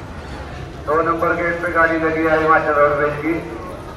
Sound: announcement of bus

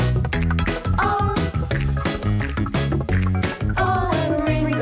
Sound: click! click! click! click!

